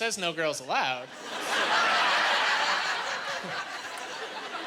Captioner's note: laughing